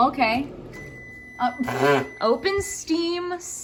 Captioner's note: microwave beeps